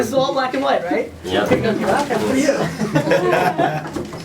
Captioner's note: voiceover; people laughing